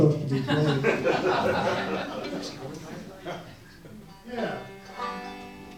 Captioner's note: audience laughs